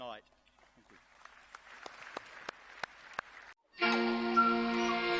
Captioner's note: clapping; lively music